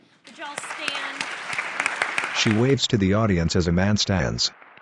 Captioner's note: applause